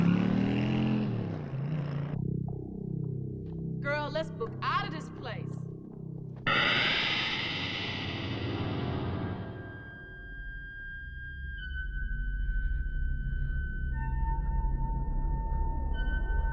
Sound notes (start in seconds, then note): 2.8 ominous music; 7.3 electric whirring; 10.4 suspenseful music